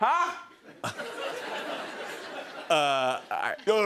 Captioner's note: laughter